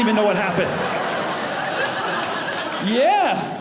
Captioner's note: audience laughing